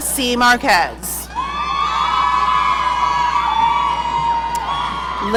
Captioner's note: audience cheering